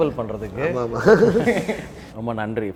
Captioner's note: laughs